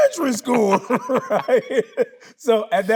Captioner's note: Tyler laughing